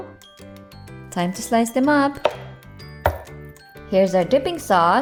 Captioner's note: knife thuds